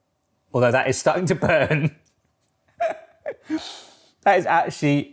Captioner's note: laughs